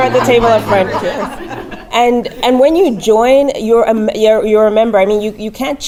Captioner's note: laugh